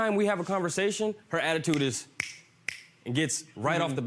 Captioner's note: snapping fingers